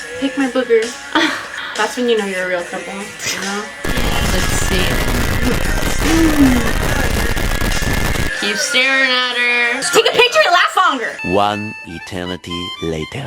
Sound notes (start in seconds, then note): 1.2 laughs; 3.8 song continues playing, distorted noises added; 5.4 sighs; 7.0 song continues playing, distorted noises added